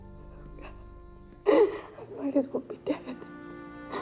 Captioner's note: sobs